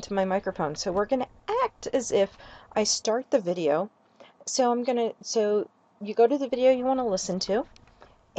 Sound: fumble

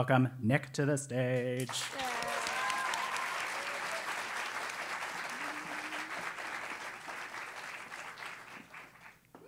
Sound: applause; laugh

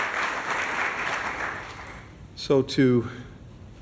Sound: applause

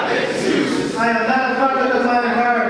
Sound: audience speaking

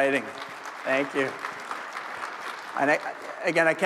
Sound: crowd applauding

